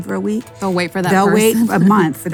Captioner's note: laughs